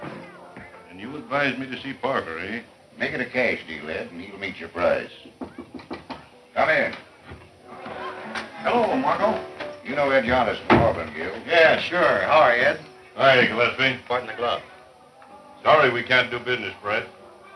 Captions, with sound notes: - And you advise me to see Parker, eh? - Make it a cash deal, Ed, and he will meet your price. (knocking) - Come in. - Hello, Marco. - You know Ed Yardis from Hardwin Mule. - Yeah, sure, how are ya, Ed? - Hi, Gillespie, pardon the glove. - Sorry we can't do business, Brett.